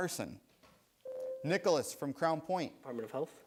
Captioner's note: buzzer sounds